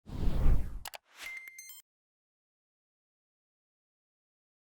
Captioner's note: whoosh, click and beep